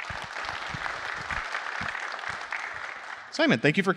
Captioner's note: applause